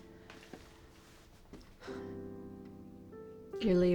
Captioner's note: sighs